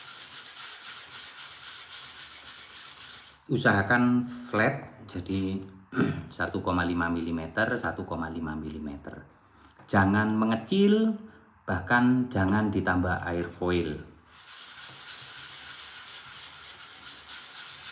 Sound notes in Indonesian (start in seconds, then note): 5.9 berdehem